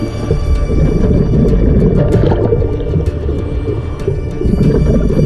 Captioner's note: water rippling